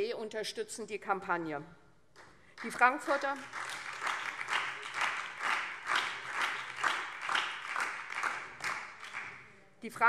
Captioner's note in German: Beifall SPD und DIE LINKE